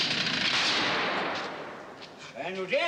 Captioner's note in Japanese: 大きな音が響く